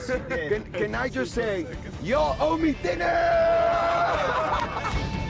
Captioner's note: laughter